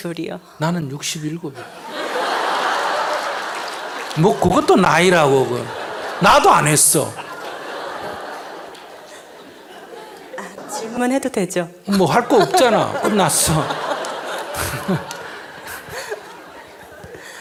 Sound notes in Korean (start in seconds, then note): 2.7 청중 웃음; 6.5 청중 웃음